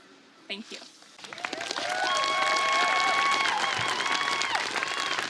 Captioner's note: applause